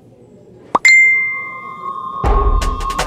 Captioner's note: Notification tone